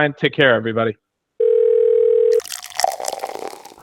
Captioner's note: phone ringing; liquid trickling